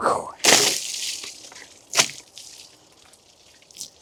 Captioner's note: water splashing